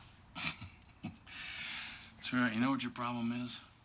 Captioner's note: chuckles